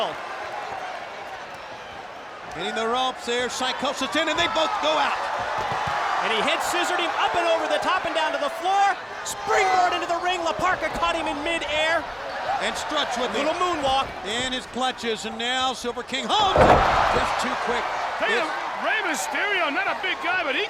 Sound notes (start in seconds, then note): 0.0 applause; 5.4 applause